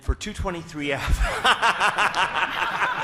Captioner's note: laughter